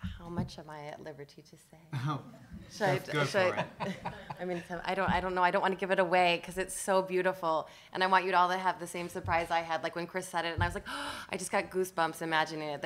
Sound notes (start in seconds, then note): 10.8 gasps